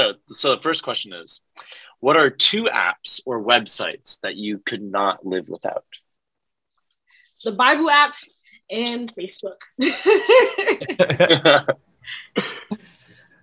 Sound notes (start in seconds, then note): 9.9 all laugh